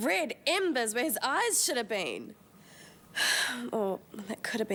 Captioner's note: sighs